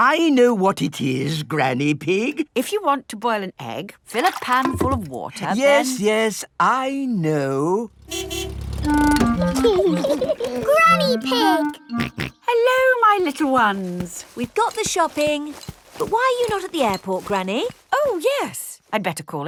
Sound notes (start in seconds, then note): 8.0 car honking; 9.4 laughing; 11.9 snorts